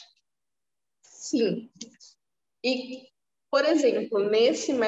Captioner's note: speaking portuguese